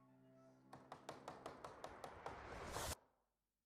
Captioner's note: tapping; tapping stops